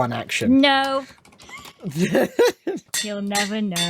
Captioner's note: laughs; anvil clangs